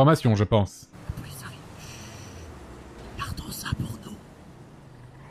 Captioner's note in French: Earl chuchote